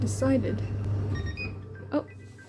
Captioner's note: appliance beeps